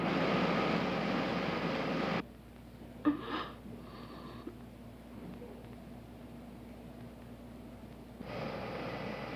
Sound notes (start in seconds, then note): 3.0 sobbing